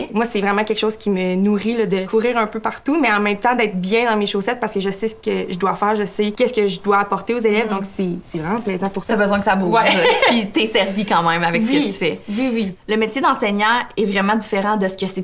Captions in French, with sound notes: - Moi, c’est vraiment quelque chose qui me nourrit de courir un peu partout, mais en même temps d’être bien dans mes chaussettes, parce que je sais ce que je dois faire, je sais ce que je dois apporter aux élèves. Donc c’est vraiment plaisant pour ça. - Tu as besoin que ça bouge. (Rires) Puis tu es servie quand même avec ce que tu fais. - Oui! Oui, oui! - Le métier d’enseignant est vraiment différent